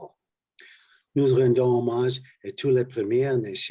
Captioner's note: speaking French